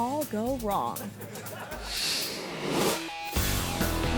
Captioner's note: audience laughing; upbeat rock music